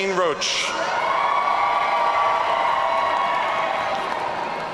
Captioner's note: audience cheering